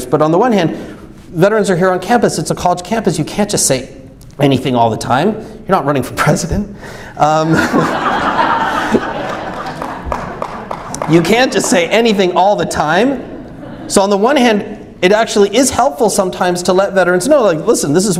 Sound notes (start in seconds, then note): 7.4 audience laughs; 9.2 clapping